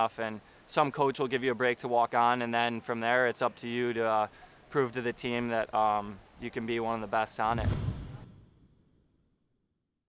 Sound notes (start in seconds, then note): 7.5 swoosh